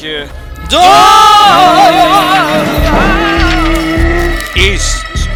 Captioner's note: panic scream